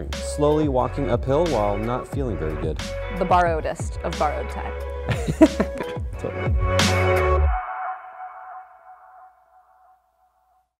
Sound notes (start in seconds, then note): 5.1 laughter